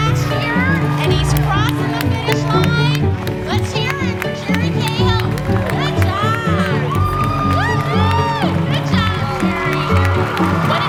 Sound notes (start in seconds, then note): 7.7 cheering